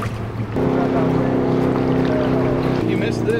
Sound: engine rumbles; male Voice

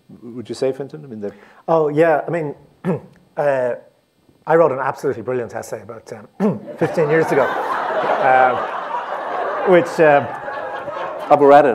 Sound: laughter

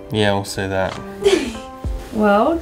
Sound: laughs

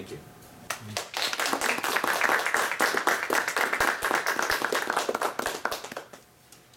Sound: clapping

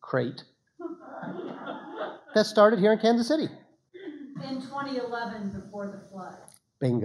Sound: laughter

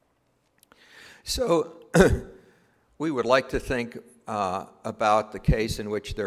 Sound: cough

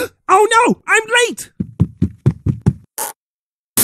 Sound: gasp; footsteps; creak

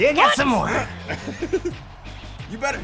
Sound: laugh

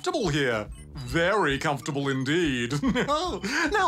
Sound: chuckles

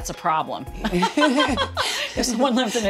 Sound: laughter

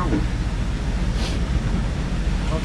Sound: Snif

